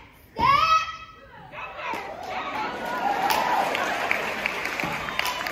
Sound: cheering

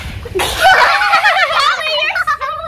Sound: laughing

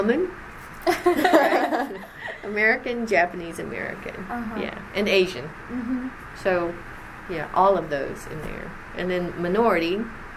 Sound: laughs

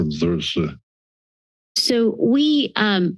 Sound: silence

